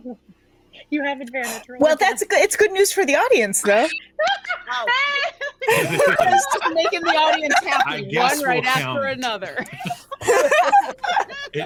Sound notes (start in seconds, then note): 0.1 laughs; 4.2 all laughing